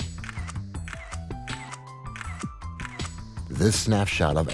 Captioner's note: camera shuttering